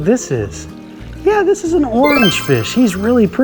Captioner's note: chimes ringing